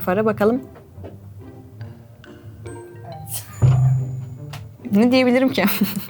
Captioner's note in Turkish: Gülüşmeler